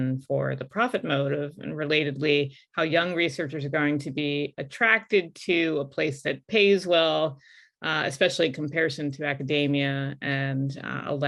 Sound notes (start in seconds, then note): none